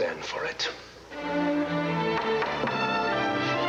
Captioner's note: gavel to order